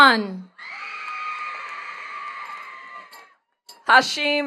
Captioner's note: attendees cheering and clapping